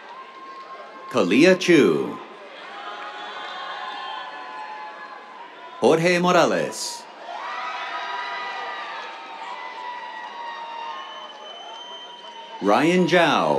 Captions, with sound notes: Kalea Chu. [CHEERS, APPLAUSE] Jorge Morales. [CHEERS] Ryan Zhao.